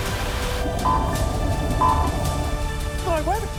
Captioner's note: buzzers chirp